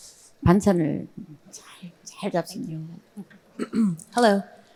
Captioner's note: speaking in foreign language